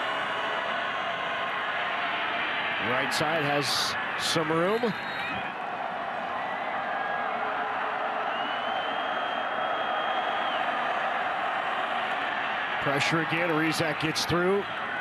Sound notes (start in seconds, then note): 4.6 referee blows whistle